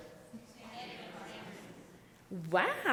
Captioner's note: audience speaking indistinctly